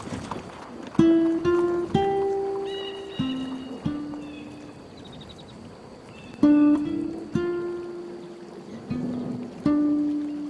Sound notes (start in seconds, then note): 0.9 light acoustic guitar music; 2.6 crow cawing